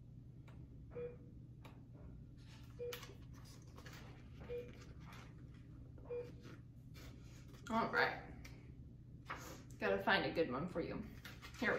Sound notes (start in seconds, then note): 0.9 beeping